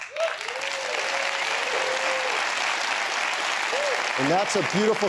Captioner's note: applause